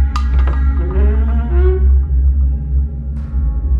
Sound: door slowly opens and creeks

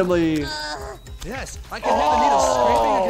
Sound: groans

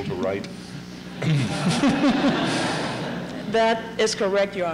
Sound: laughter

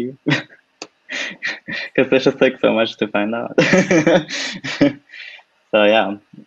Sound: laughs

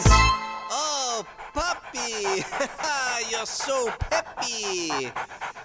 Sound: laughs

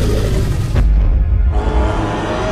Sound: stomping sound; Triceratops growling and stomping

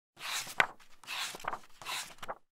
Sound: pages turning

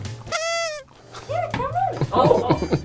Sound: horn honks; laughing

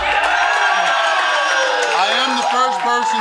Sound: audience cheering

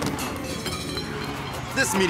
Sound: objects being knocked over; tires squealing

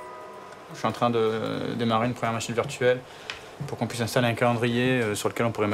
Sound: speaking in a foreign language

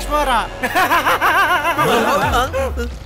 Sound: laughs

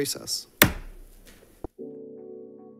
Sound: gavel taps; gentle upbeat music

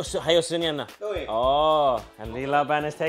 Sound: speaks in foreign language

